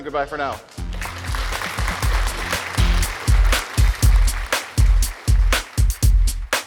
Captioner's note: upbeat music; applause